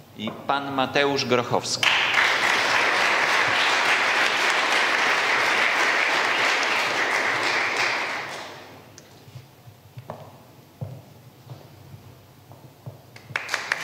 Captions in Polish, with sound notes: I pan Mateusz Grochowski. [oklaski]